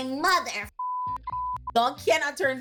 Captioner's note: beep